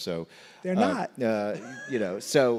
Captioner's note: laughs